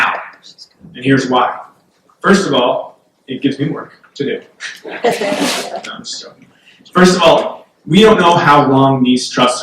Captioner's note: background laughter